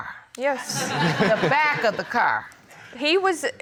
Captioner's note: audience laughing